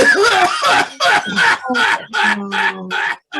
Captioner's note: coughing